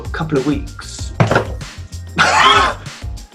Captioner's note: cup clangs; laughs